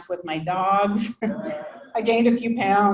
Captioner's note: people laughing